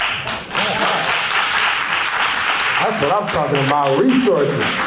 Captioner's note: applause